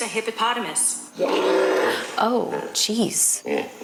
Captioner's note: hippopotamus bellows; hippopotamus bellows